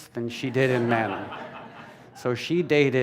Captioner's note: laughter